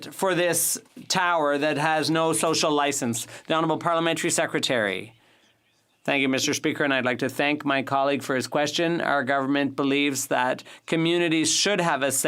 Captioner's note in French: voix de l'interprète